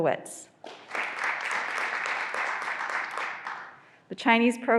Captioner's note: graduands applauding